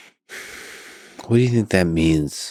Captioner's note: Lex sighs